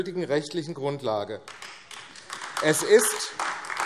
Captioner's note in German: Beifall AfD